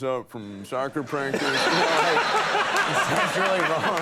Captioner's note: audience laughing; Conan laughs